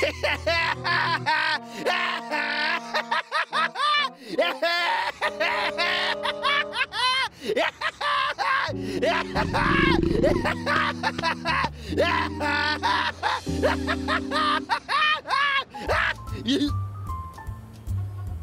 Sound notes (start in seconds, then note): 1.0 laughing